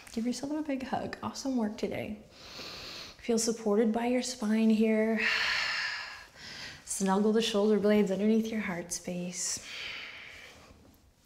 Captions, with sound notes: give yourself a big hug, awesome work today. (inhales) Feel supported by your spine here. (exhales) Snuggle the shoulder blades underneath your heart space.